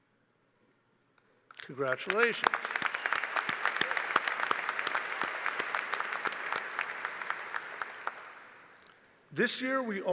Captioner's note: applause